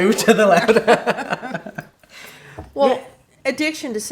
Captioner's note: laughs